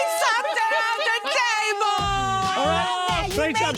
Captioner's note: laughing